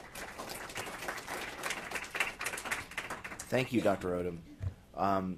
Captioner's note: applause